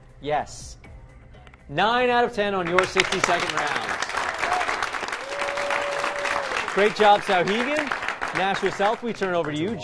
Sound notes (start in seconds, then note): 3.2 cheering